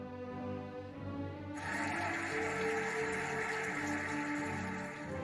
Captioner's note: cheering and applauding